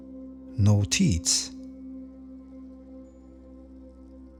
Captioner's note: german